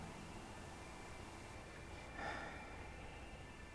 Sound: slow breathing

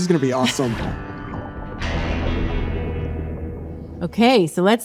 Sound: gurgling

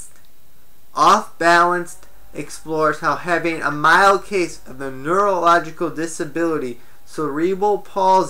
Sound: knock ringtone on phone

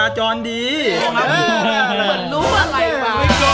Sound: mocking

